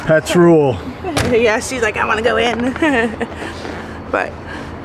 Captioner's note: giggles